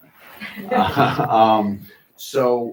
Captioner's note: chuckling